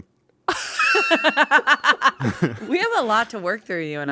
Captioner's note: everyone laughs